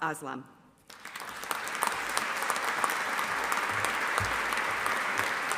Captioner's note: audience applauding